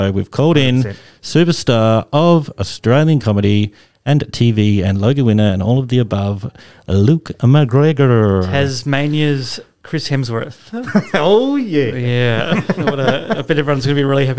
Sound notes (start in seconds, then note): 10.7 laughter